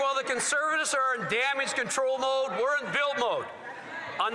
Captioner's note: some Applause